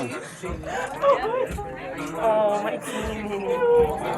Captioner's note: Tana sobbing